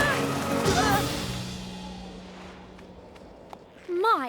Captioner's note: crash!